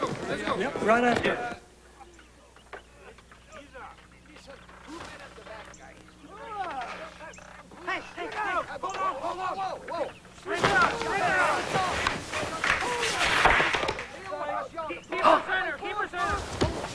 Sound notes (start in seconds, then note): 4.3 distant chatter